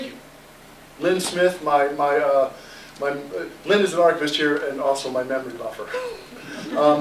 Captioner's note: laughter